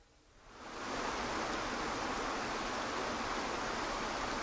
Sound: waterfalls rushing

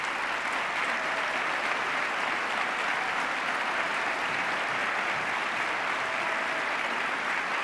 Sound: cheers, applause

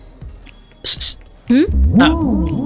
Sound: calling out

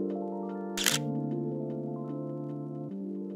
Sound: camera shutter clicks

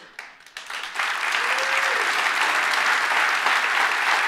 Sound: audience claps

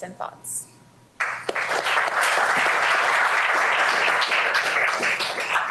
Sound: applause

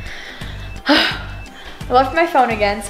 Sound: sighs

